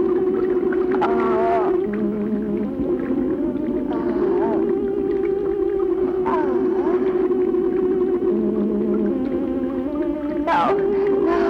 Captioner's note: groaning